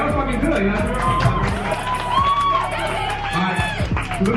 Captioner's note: crowd applauding